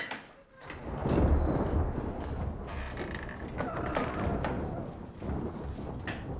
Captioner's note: loud creaking; thundering